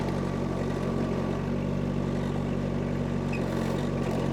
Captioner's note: engine rumbles